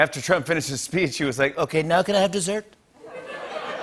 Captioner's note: As Trump; laughter